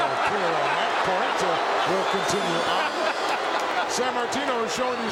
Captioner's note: laughs